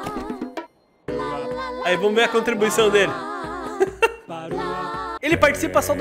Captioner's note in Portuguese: risos